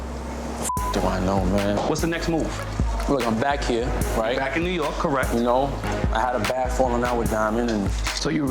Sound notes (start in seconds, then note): 0.6 beep